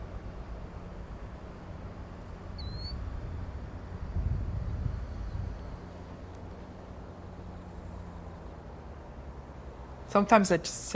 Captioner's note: birds chirping